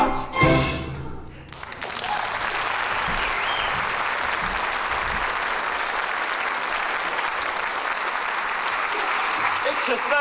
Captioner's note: applause